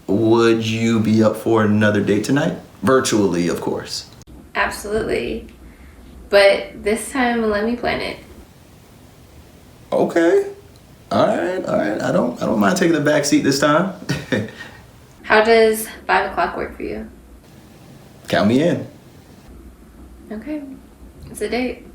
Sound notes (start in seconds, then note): 14.0 giggles